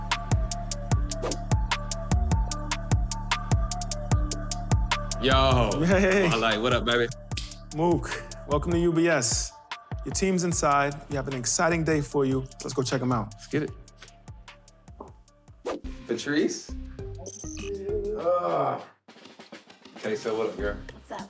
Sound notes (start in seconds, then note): 1.1 air whooshing; 16.9 air whooshing